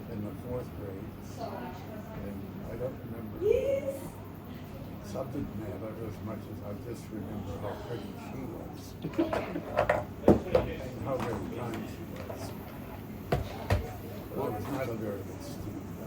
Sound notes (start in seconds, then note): 9.0 laughter